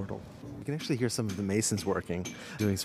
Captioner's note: hammers ringing